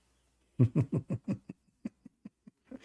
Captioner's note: Ketawa